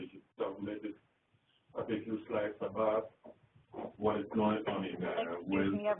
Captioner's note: continued speaking in the background